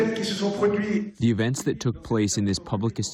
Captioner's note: through translator